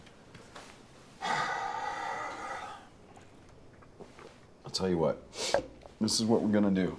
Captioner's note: sighs heavily